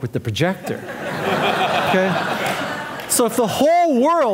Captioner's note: audience laughing